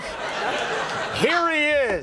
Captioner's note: people laugh